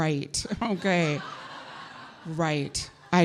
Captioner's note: audience laughing